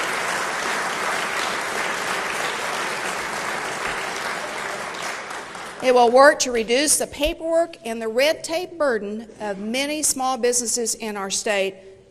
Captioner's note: applause